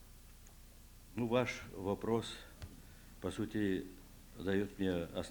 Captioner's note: non-english speech